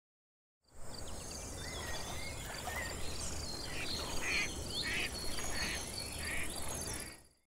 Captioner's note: nature sounds, duck quacking